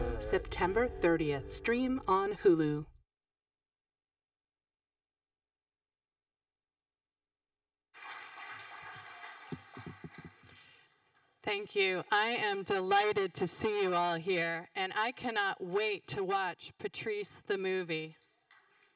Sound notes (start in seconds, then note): 7.9 audience applauding